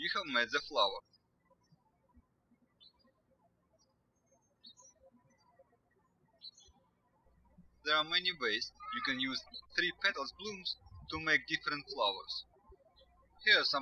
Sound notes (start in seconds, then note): 2.3 birds chirping